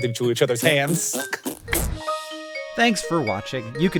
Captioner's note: Jason imitating fart noises